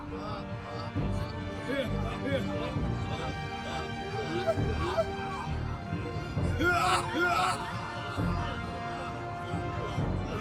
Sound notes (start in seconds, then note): 7.7 all laughing